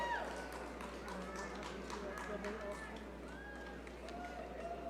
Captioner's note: audience cheering